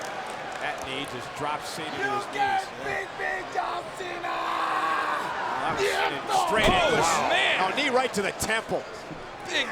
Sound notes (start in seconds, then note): 5.1 blow thudding